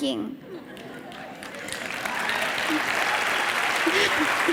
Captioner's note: audience cheering